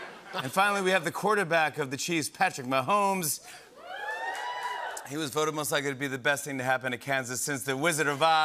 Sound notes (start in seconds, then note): 0.0 laughter and applause; 3.8 cheering and applause